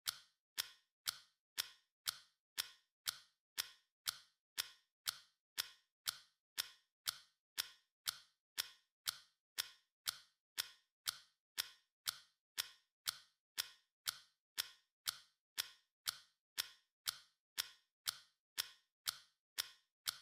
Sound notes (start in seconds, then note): 0.2 clock ticking